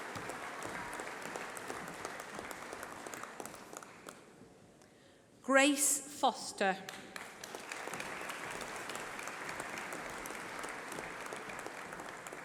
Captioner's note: applause